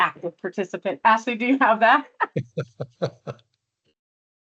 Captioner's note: laughs